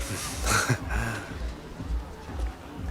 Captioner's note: laughs